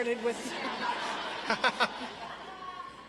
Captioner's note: audience laughs